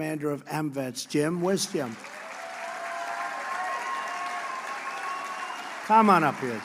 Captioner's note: applause